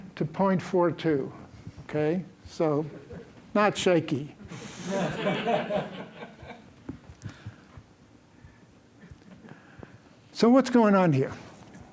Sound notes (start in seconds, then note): 7.1 laughter